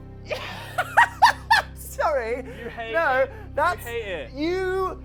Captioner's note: laughing